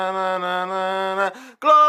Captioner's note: deep breathe in